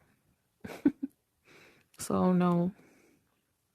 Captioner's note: chuckles